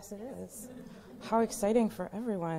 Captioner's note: laughter